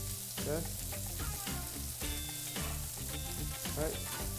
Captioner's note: sizzling food